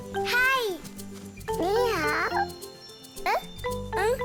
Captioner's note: speaks in foreign language